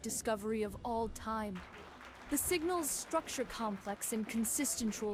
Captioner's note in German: Applaus